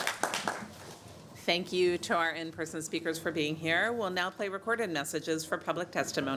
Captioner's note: applause